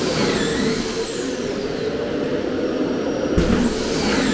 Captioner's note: tool whirring